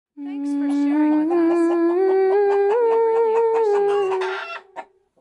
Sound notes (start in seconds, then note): 0.6 humming, chickens, distant chat